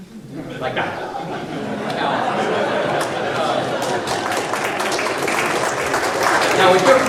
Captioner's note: audience laughter and applause